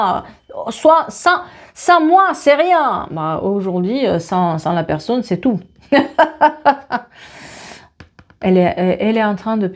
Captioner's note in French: rires